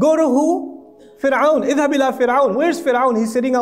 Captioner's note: Arabic